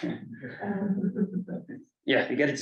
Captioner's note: colleagues chuckle